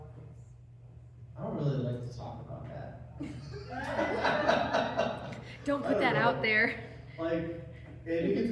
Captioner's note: laugh